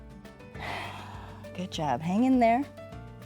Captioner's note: exhales